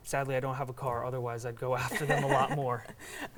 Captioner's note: laughing